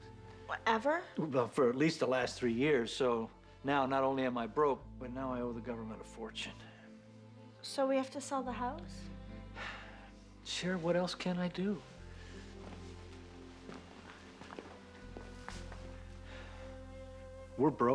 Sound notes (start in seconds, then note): none